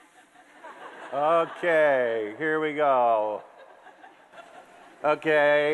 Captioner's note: laughter from the crowd